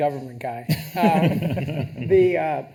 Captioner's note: attendees laughing